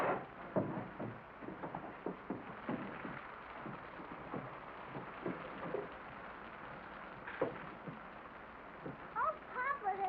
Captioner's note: rain patters